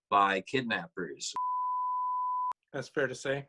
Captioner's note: test tone